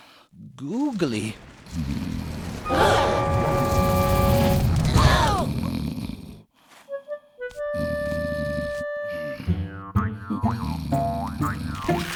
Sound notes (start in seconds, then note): 1.6 snoring; 2.6 gasps of horror; 4.8 grunts of impact; 6.0 snoring